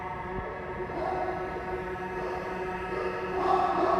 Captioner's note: haunting music; dogs barking